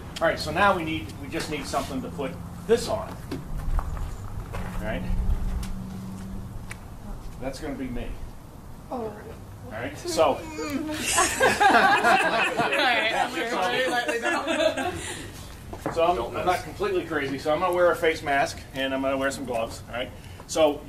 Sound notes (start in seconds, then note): 9.6 moans; 10.1 students exclaim; 10.9 laughter